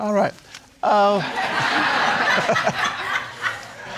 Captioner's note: audience laughing